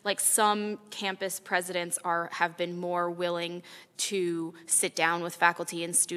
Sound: none

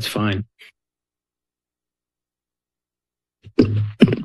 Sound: silence

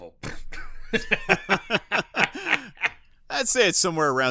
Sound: laughs

